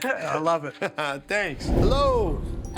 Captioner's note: laughs